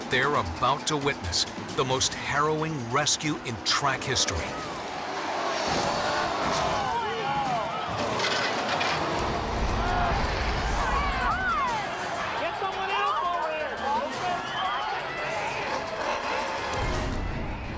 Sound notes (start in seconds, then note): 6.2 crash; 9.4 explosions